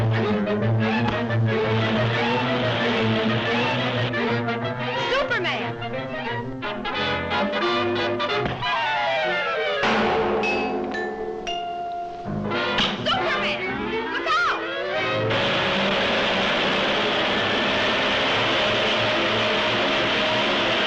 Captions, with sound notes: (fists thudding) (suspenseful music) Superman! (suspenseful music) (fists thudding) (metal clangs) Superman, look out! (engine rumbling) (dramatic music)